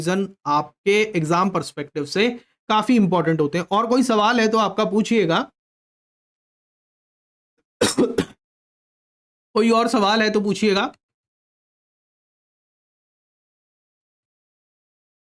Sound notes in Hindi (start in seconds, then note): 7.8 खांसने की आवाज़